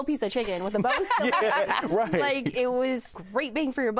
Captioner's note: all laugh